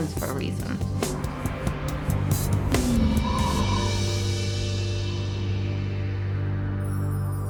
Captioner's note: gentle brooding music; wind whooshing